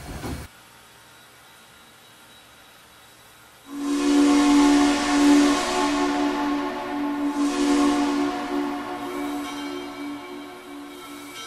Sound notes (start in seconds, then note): 3.6 train whistle blowing; 9.2 bell ringing